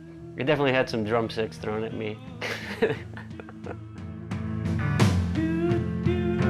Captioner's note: laughs